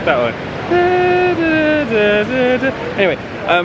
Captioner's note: humming "The Star-Spangled Banner"